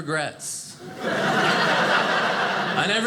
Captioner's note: audience laughing